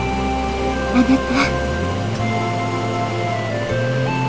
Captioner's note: rain